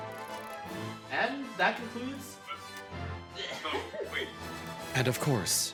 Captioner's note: laughs